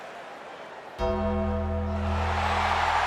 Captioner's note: bell tolls; crowd cheers